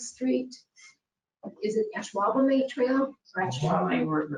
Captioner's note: speaking faintly